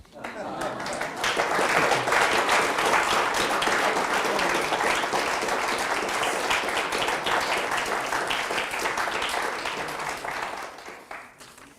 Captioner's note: audience applause